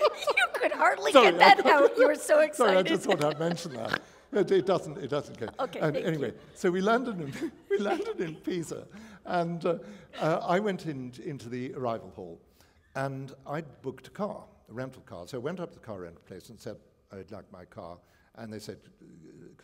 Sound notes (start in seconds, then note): 7.2 chuckle